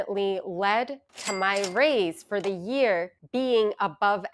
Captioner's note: cash register ringing